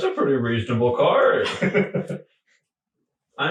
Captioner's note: laughing